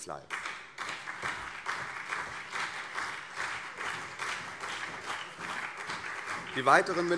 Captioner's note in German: Beifall CDU und SPD